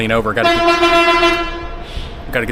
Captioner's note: truck honking